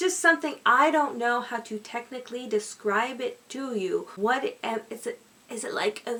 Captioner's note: stammering